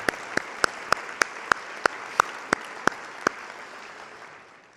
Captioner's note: audience applauding